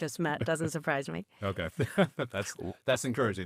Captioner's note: chuckling; laughing